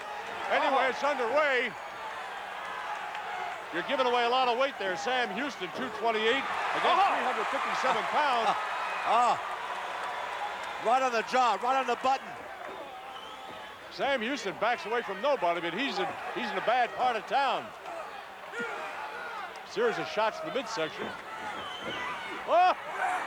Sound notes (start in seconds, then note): 4.8 Vince exclaims